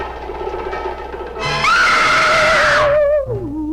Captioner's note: Meg screaming; eerie mysterious music